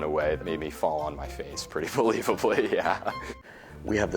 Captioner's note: chuckles